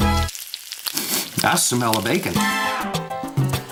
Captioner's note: sniff,sniff